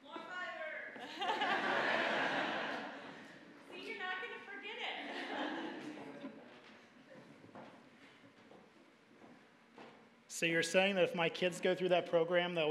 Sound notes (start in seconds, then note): 1.0 audience laughing; 5.0 audience laughing